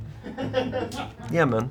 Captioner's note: crew laughs